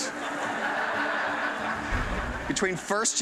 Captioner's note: laughter